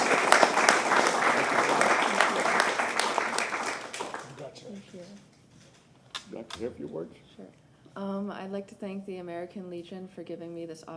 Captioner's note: applause